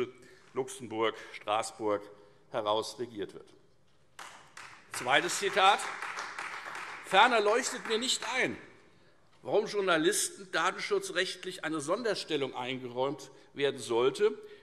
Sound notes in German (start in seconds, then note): 4.1 Beifall Freie Demokraten